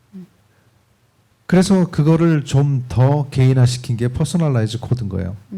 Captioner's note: speaking korean